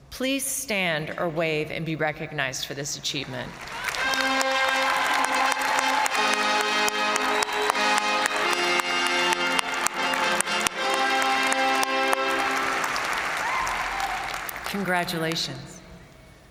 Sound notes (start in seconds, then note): 3.8 triumphant music; 3.9 audience applauding